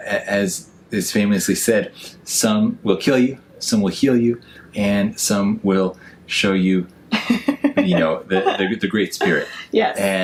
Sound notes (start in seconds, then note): 7.2 laughs